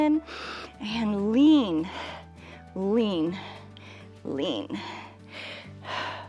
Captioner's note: inhales and exhales